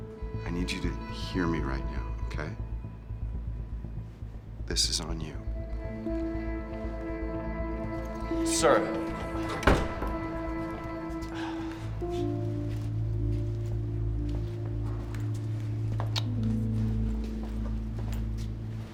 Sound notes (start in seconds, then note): 9.0 door rattling; 11.2 Drew sighs; 12.5 tense and ominous electronic music